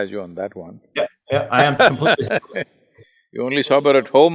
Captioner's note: Sadhguru laughs